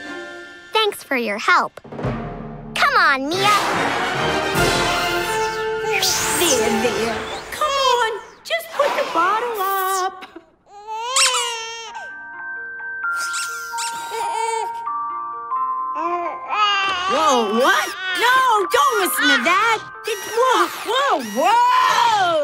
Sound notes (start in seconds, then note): 10.7 Baby Goo Goo crying, toy squeaking; 13.0 music playing, toy squeaking